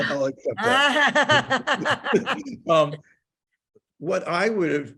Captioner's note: laughing